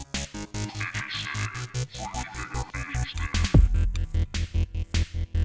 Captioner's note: deep Voice